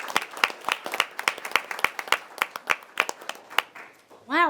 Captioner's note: members applauding